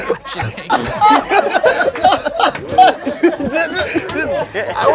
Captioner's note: group laughs